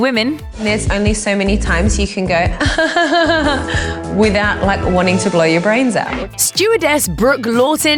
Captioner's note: laugh